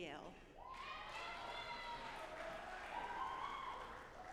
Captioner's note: audience applauding